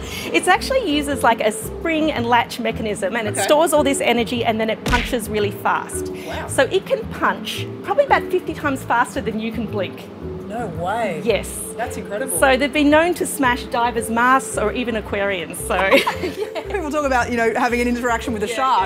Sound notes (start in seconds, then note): 15.8 laughter